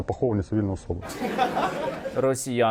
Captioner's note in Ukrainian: сміх